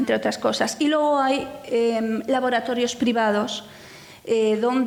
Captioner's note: speaking in foreign language